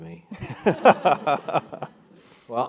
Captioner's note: laugh